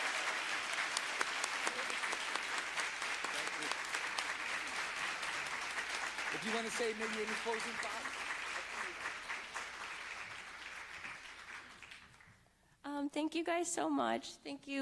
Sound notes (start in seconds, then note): 9.6 applause